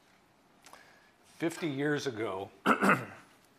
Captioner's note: clears throat